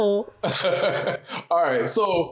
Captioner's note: laughs